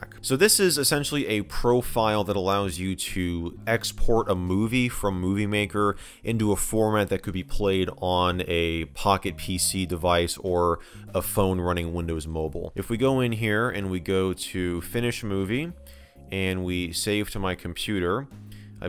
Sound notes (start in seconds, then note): none